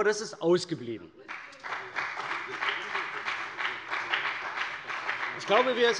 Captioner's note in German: Beifall bei der CDU und dem BÜNDNIS 90/DIE GRÜNEN